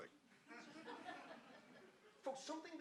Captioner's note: audience laughing